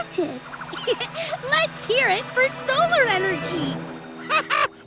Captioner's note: giggling